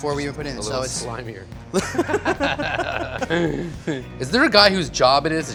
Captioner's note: laughing